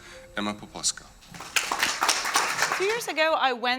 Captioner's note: applause